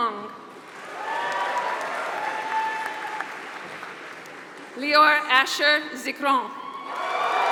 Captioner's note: applause; applause